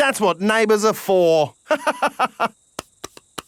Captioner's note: laughs